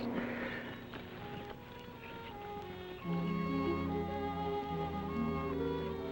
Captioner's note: birds chirping; gentle music